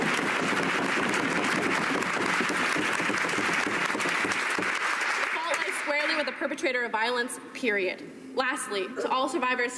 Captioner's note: cheering and Applause